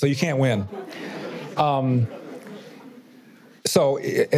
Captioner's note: audience laughter